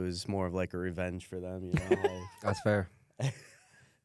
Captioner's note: laughs